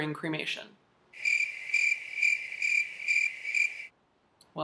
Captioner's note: crickets chirping